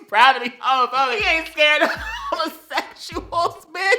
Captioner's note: wheeze; some more wheeze